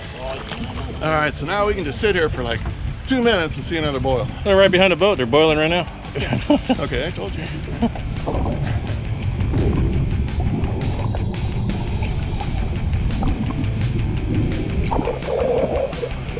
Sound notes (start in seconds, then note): 6.1 chuckling; 7.8 underwater gurgling